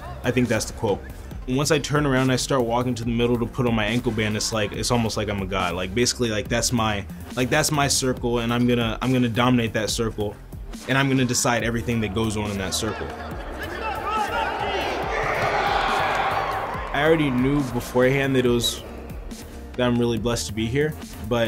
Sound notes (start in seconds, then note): 13.4 crowd cheering